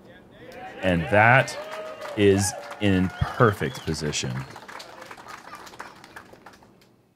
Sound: crowd cheering

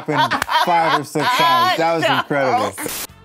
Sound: laughs

